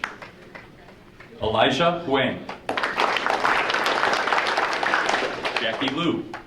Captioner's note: audience applauding